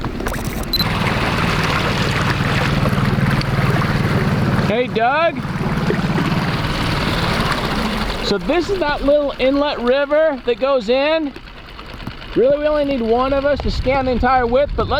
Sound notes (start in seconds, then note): 1.1 boat engine whirring